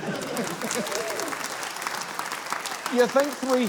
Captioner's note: cheering, applause